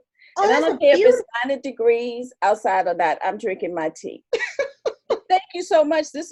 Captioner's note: laughter